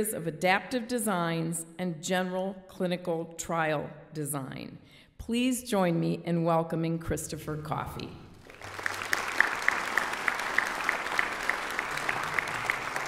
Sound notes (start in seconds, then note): 8.4 audience applauds